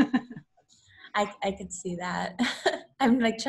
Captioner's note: laughs